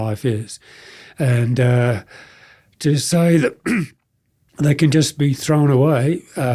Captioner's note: clears throat